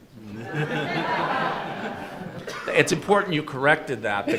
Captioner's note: audience laughing